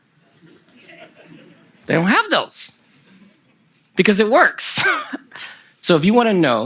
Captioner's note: laughter from the audience